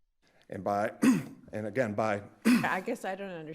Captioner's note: clears throat